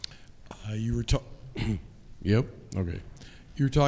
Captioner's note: clears throat